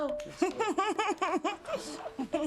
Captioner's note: laughter